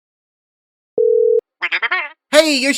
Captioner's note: phone ringing